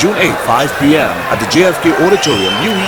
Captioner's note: wild applause and cheering for 22 seconds